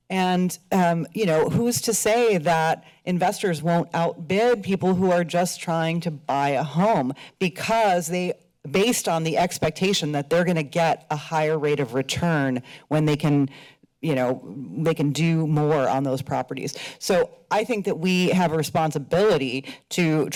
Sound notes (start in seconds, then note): none